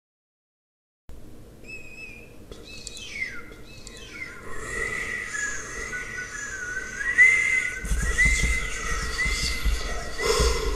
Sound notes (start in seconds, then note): 0.0 sound of scary wind